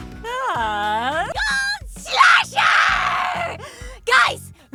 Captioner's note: inhales